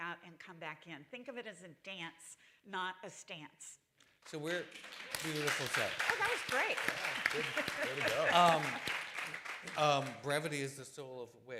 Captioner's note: applause